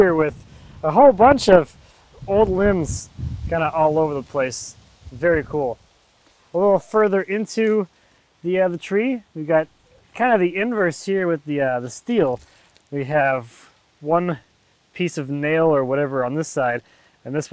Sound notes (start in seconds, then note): none